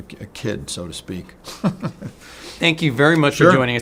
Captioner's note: laughs